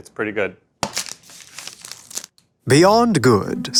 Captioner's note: wrapper tears